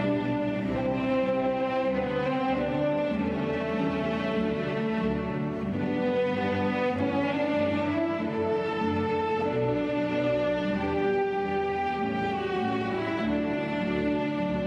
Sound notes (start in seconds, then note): none